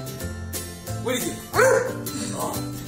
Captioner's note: barks